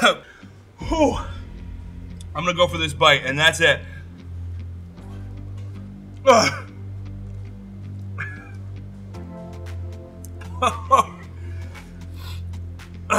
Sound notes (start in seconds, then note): 6.2 coughs; 10.5 laughs